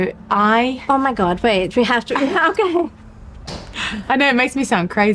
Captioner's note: laughter